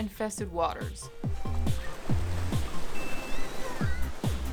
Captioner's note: water spatters